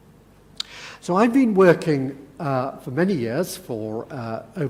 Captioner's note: none